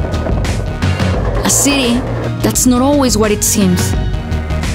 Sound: skateboard rolling

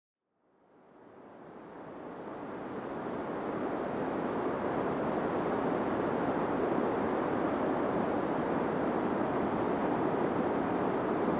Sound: gentle white noise

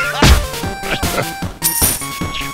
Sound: Engineer laughs happily; money sound

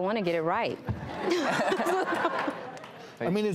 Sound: audience laughing

